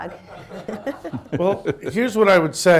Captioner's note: laughter